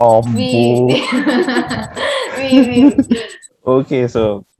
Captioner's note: laughs